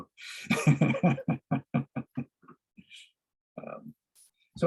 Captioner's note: laughs